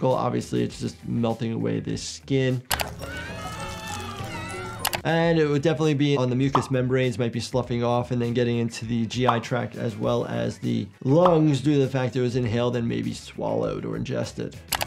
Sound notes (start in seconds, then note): 2.7 mouse clicking; 3.0 Splendid screaming